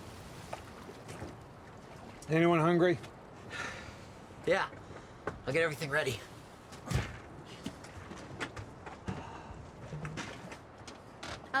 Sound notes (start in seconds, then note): 3.5 sighs